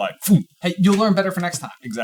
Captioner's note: vocalizes impact